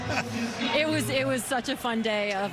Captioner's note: laughter